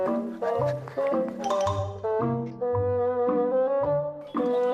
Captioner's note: nyam nyam nyam